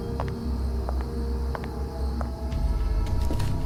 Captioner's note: suspenseful music; footsteps; suspenseful music